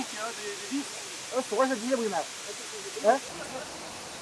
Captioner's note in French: parle en Arabe